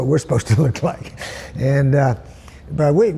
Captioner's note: laughs